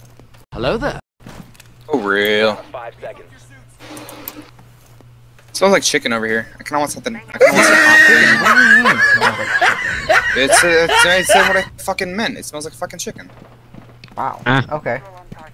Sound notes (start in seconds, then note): 0.5 Star Wars "Hello There" Audio; 7.4 wheezing laugh track as I can't find the drone